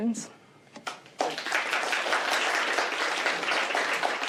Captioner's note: applause